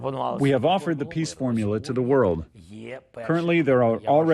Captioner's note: through translator